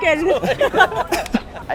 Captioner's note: laughs